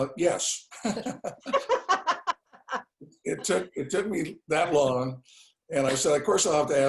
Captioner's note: laugh